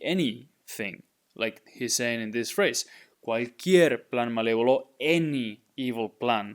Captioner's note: speaking in Spanish